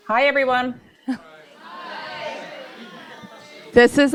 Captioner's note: crowd responds